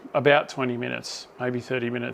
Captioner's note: none